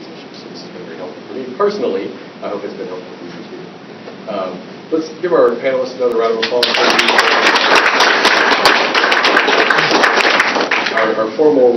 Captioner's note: applause